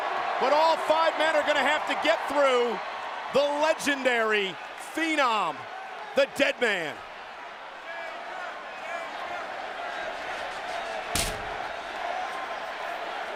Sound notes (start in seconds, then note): 6.5 applause